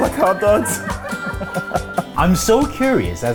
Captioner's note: happy music continues; laugh